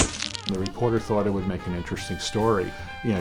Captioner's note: camera flash bulb